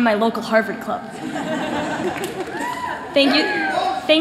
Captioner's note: laughter